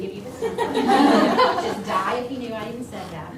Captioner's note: audience laughing